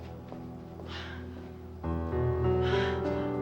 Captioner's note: breathing heavily